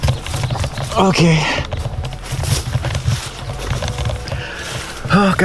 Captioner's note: sighs